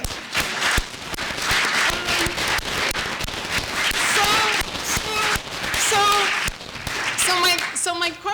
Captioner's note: applause